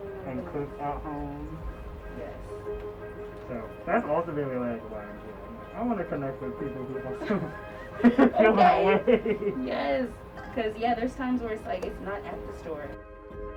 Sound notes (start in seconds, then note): 9.0 both laugh; 13.3 chill music